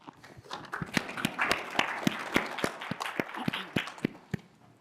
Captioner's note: applause